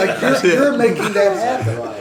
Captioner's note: laughter